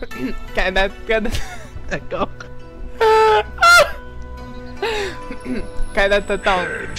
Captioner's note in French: rires; rires des deux